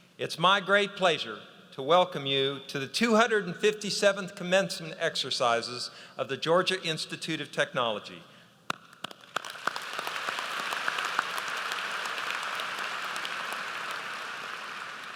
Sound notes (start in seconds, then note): 8.9 audience applauds